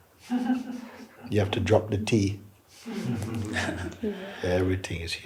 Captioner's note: laughter; laughter